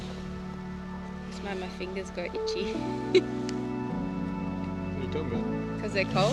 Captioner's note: chuckles